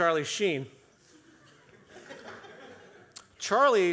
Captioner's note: audience chuckles